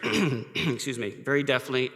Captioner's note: coughs